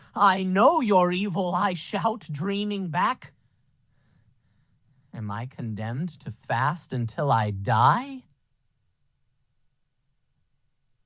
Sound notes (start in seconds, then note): none